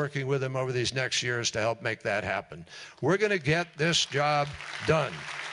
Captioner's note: applause